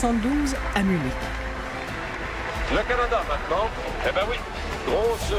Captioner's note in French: acclamations